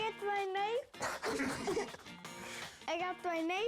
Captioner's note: laughter